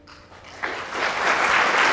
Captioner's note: applause